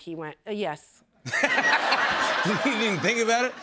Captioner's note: laughter